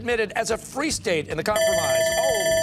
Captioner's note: timer sounding